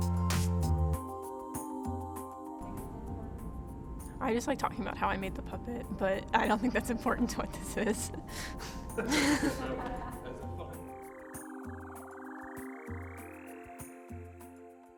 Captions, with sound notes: -: I just like talking about how I made the puppet, but I don't think that's important to what this is. (laughing) (electronic music)